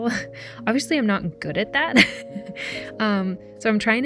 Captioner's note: laughs